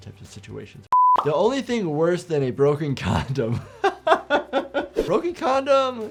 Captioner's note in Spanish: risas